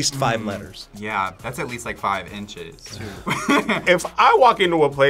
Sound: laughs

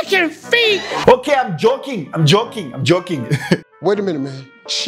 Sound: laughs

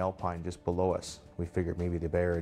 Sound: voiceover

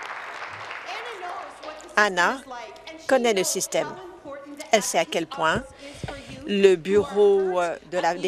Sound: applause

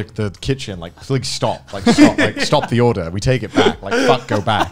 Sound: laughs

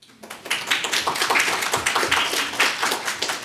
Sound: applause

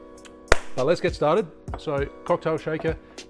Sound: clap

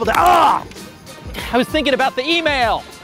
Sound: groans

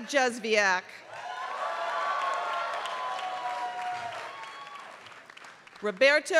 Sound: applause

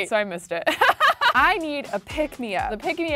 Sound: laughs

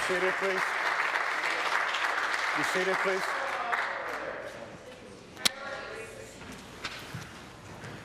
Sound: applause

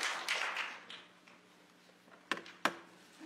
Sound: applause

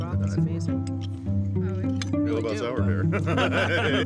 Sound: laughter

